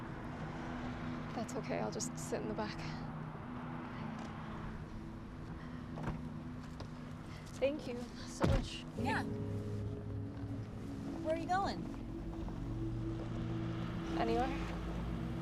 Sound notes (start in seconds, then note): 5.8 door unlatching; 15.2 gentle music